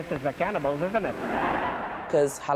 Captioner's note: audience laughing